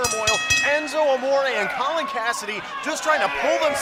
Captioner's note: bell ringing